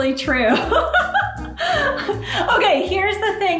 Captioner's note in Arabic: يضحك